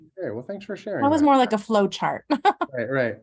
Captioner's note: laughs